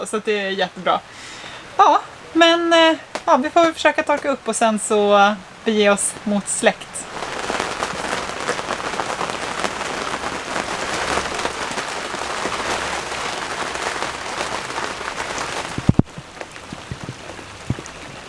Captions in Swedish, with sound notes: så att det är jättebra Ja men ja vi får väl försöka torka upp och sen så bege oss mot släkt [Applåder]